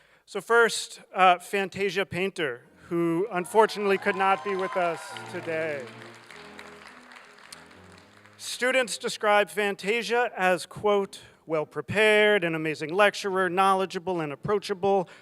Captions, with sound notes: So first Fantasia Painter, who unfortunately could not be with us today. (applause) Students describe Fantasia as, quote, "Well-prepared, an amazing lecturer, knowledgeable and approachable,